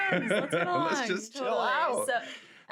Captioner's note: laughs